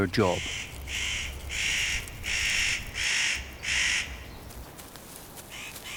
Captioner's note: bird calls